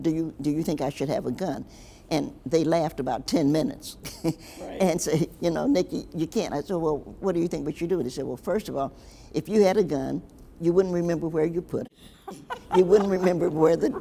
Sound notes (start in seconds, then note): 4.2 chuckles; 12.0 laughs